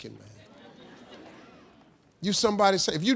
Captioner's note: audience laughing